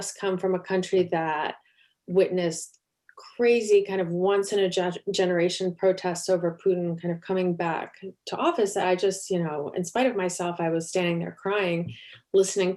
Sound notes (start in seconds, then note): none